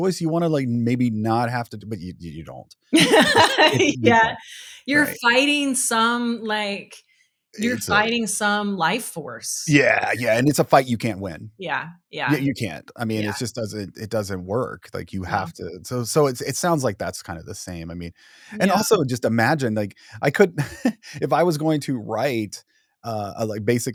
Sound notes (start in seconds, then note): 2.9 laughing